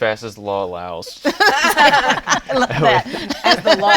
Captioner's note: laughs